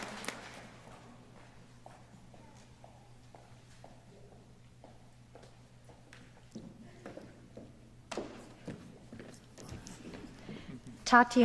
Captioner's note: applause